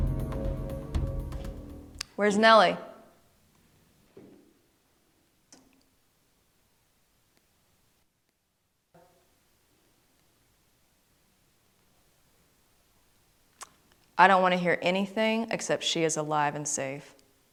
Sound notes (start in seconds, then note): none